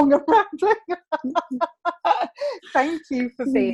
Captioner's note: laughing